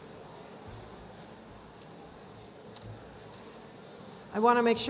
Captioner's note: none